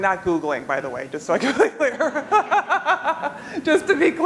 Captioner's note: laughs